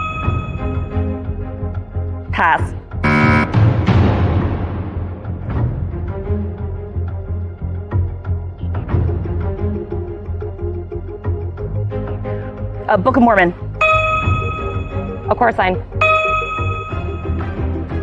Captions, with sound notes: -Pass. -(BUZZER SOUNDS) (TENSE MUSIC) Uh... Book of Mormon. A Chorus Line.